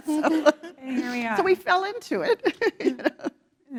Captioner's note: laugh